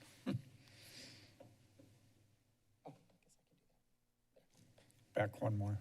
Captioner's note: silence